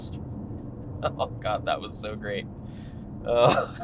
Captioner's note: laughs